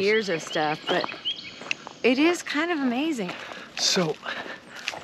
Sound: birds chirping happily

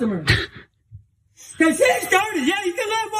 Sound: laugh

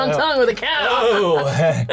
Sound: laughs

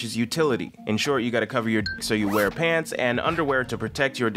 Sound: beep

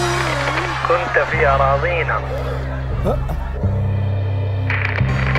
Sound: foreign language

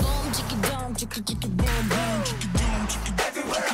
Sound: beatbox

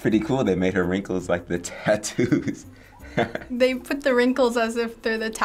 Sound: chuckles

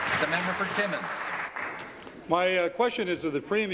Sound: applause

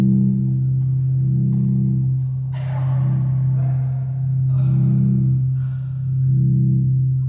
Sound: sounds of struggle

